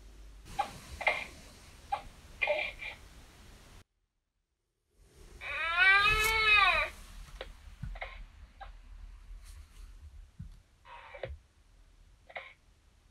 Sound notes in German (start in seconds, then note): 0.0 Geräusche vom Babysimulator; 5.4 Baby schreit; 10.9 Geräusche vom Babysimulator